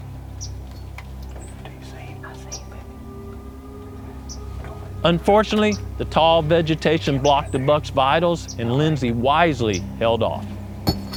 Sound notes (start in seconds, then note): 1.9 whispering